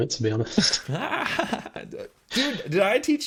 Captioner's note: laughing